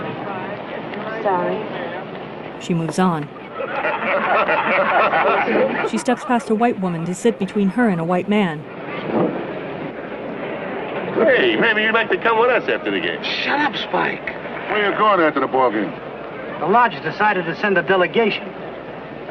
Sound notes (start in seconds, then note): 3.4 laughing